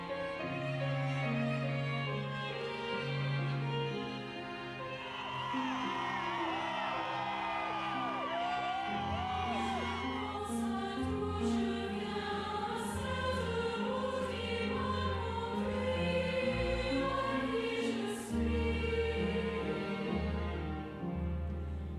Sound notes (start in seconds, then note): 0.9 poignant music continues; 4.6 students cheering; 9.1 poignant music continues; 9.1 singing in French; 16.9 poignant music continues; 16.9 singing in French continues